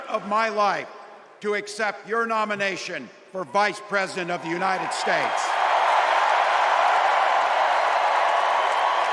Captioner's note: applause